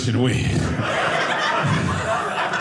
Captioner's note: audience laughing